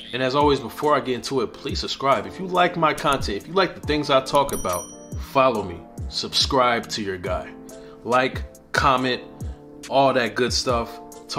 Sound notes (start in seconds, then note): 4.4 bell dinging